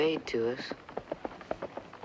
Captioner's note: horse approaching